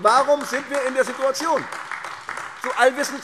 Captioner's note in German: Beifall